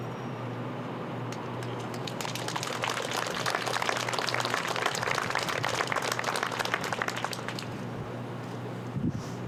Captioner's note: applause